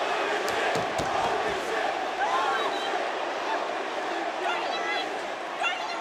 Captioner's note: crowd chants indistinctly